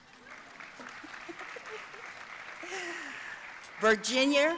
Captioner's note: audience applauding